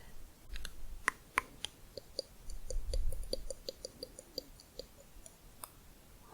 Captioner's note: tongue clicking, back of mouth